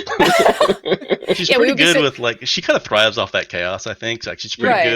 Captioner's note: laughter